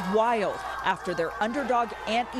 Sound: cheering

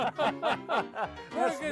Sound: men laughing

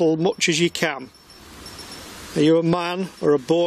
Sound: device beeps

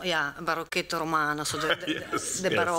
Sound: speaking italian

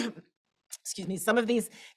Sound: coughs

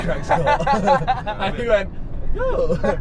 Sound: laughing

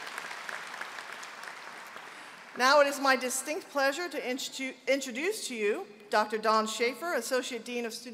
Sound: applause

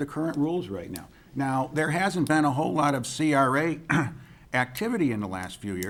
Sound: clears throat

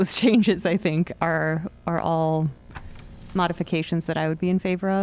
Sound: laughter

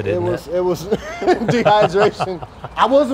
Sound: laughter

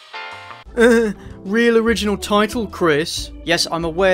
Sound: chuckles strangely

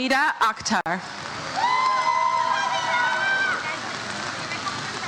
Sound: audience cheers

